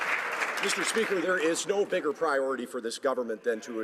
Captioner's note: some Applause